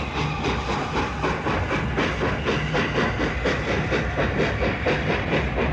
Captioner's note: train passes